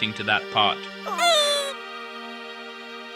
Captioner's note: Squee - chuckles